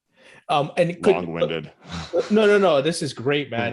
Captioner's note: laughs